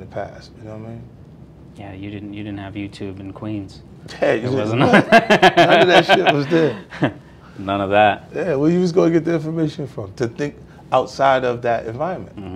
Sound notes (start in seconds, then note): 4.6 laughs